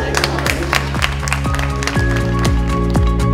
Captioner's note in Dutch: applaus